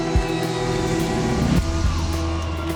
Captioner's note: engine roars